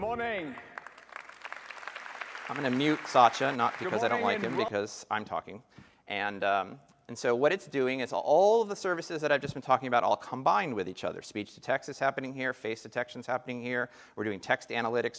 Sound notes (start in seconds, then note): 3.1 applause